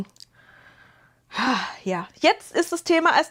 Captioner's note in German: seufzt